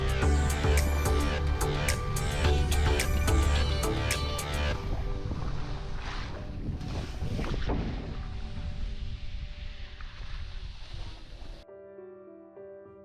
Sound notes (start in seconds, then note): 3.1 upbeat music; 9.8 skis swishing